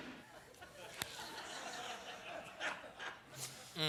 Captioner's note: laughter